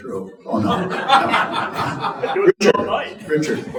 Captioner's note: audience laughing